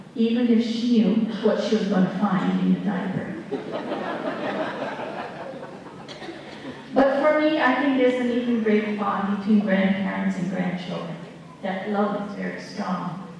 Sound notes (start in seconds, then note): 3.4 laughter